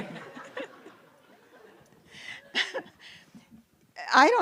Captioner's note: laughter